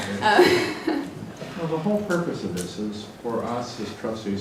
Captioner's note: laugh